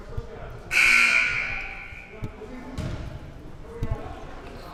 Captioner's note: buzzer sounding